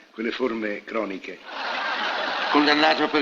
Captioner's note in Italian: risate